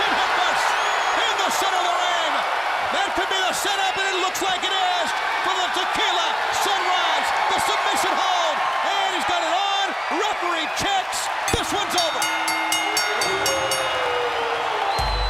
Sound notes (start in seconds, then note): 11.4 bell ringing; 12.8 crowd cheering